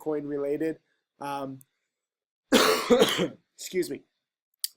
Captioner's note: coughs